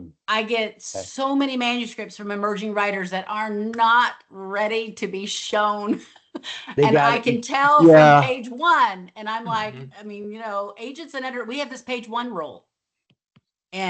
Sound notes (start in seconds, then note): 6.6 laughs